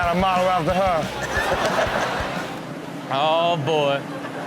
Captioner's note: audience laughing